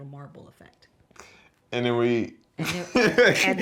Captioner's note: laughter